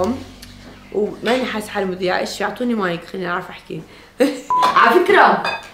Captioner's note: chuckles